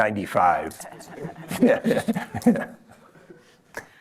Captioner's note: laughter